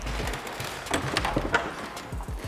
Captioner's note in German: Türknarren